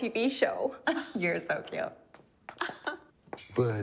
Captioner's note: chuckling